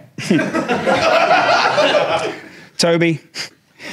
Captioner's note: audience laughing